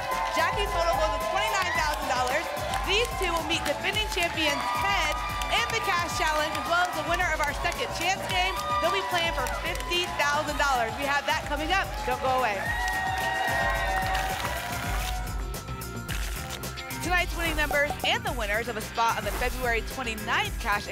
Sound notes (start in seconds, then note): 13.2 applause and cheering cont; 14.2 tickets shuffling